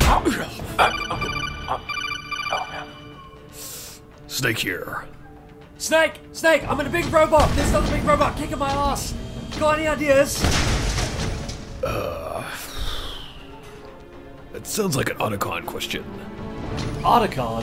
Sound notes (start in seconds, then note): 2.4 codec sound